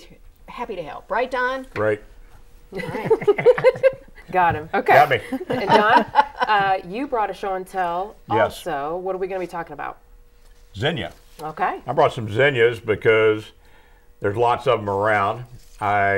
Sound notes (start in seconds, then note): 5.2 laughing